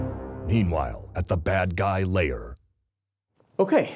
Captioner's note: martial music; voiceover